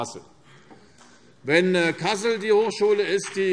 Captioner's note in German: Beifall